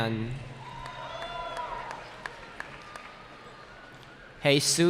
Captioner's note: cheering